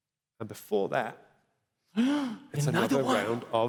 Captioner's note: gasps